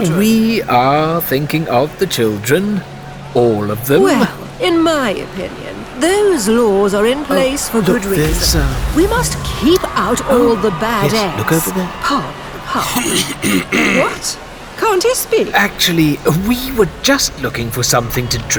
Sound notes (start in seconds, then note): 13.0 Chartrulean clearing throat